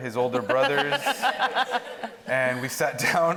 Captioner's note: audience laughing